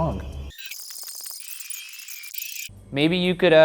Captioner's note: electronic noise